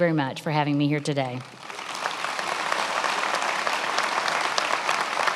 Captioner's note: attendees applauding